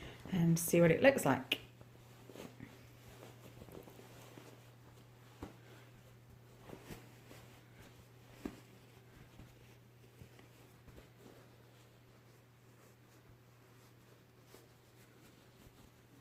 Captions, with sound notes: and see what it looks like [rustling]